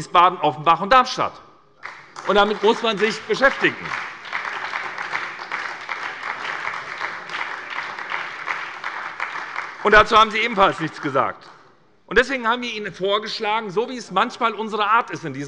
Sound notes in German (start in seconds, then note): 3.7 Beifall bei der SPD